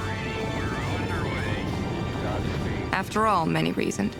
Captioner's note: man On Radio